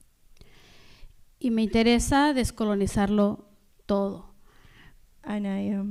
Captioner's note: speaking spanish